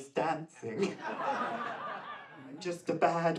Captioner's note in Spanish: público ríe